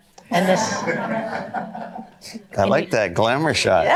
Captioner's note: audience laughter